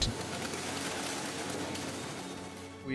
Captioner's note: typing on Braille machine